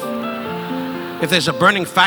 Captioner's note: audience laughing